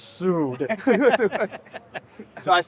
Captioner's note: laughing